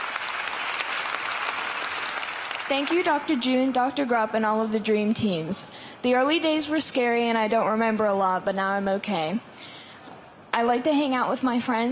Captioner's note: applause